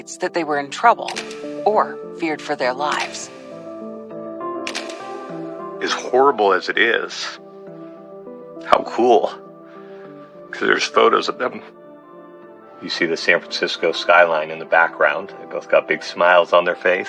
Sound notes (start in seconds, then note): 4.6 shutttterer clilick